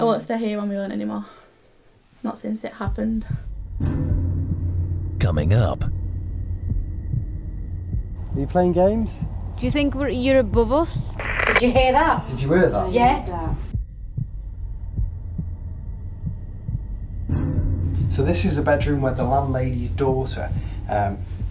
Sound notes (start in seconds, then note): 11.0 static crackling; 13.9 suspenseful music